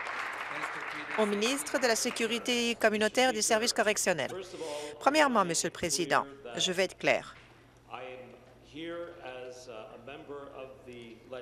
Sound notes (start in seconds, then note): 0.0 applause